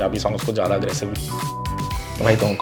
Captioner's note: beeped